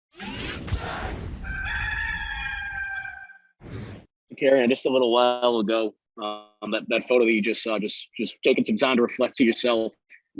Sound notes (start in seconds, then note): 0.1 squealing swoosh; 1.4 rooster crows